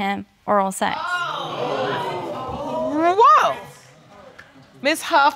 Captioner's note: audience gasping